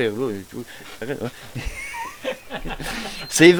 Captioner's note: my friend laughs at me